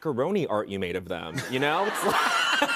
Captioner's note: laughter